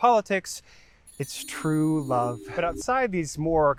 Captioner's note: bells chime